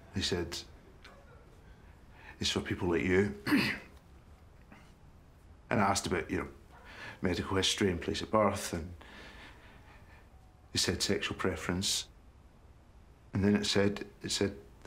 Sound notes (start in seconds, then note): 3.3 coughing